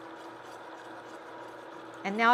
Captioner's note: whisk whirring